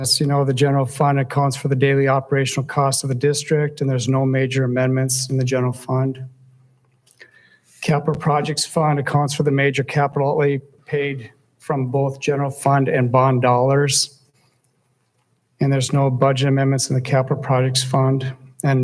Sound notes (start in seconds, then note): none